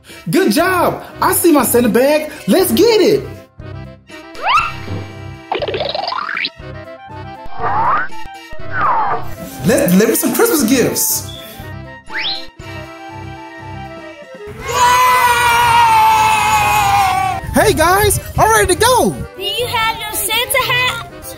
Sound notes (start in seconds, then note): 4.3 various cartoon sound effects; 11.2 sliding whistle sound effect; 13.2 circus music continues in background